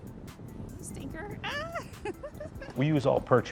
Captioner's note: laughs